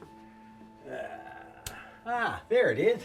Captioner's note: Blue groans; lamp switch clicks